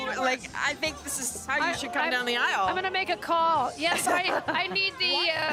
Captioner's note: laughter